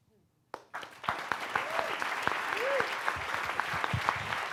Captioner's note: audience applauds